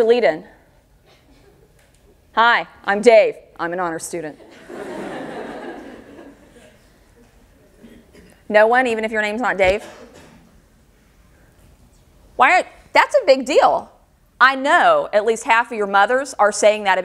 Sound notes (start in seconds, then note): 4.4 audience laughter